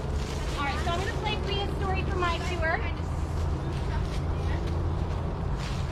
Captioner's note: shuffling